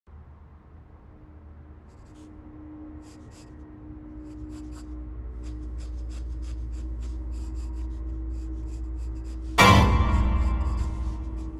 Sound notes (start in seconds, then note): 1.8 sketching; 9.6 suspenseful music